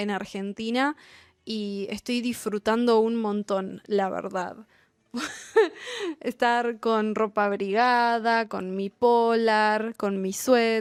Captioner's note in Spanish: risas